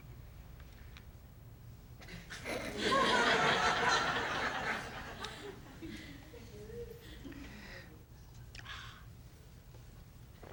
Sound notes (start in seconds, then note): 2.2 court laughs